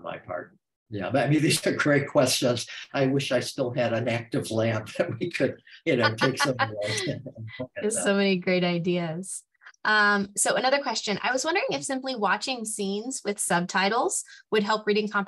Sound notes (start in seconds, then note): 2.8 laughter; 5.8 laughing